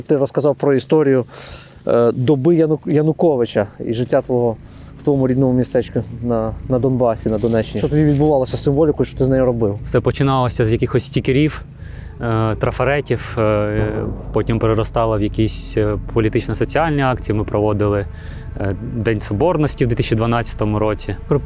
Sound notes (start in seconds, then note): 13.1 explosion in the distance in the background